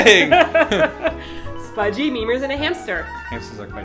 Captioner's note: laughs